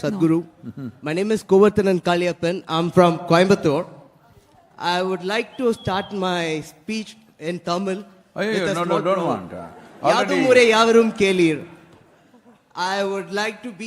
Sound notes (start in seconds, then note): 9.5 few laugh